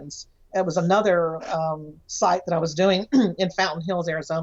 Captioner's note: clears throat